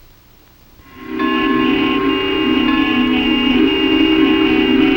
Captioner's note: horns honking